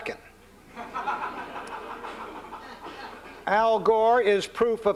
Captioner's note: laughter